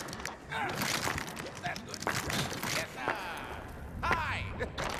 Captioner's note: grunts with exertion